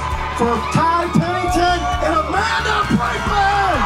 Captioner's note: crowd cheers